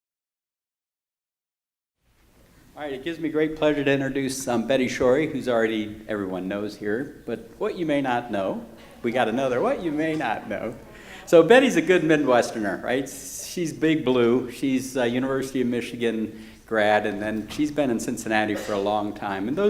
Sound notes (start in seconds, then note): 11.0 laughing